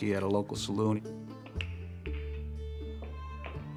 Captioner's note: pool balls colliding